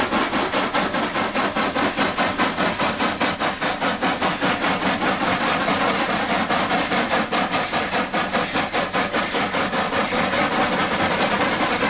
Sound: spirited chugging

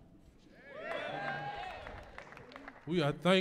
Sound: audience cheering

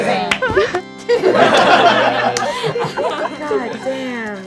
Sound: laughing

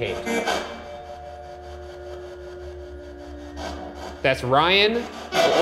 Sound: slow tense music; spirit box buzzing

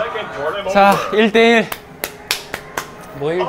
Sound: clapping

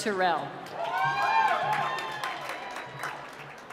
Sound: cheering

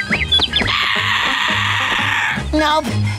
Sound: squawking

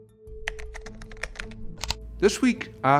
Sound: contemplative music; keyboard clacking

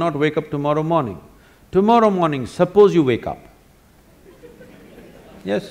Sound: laughter

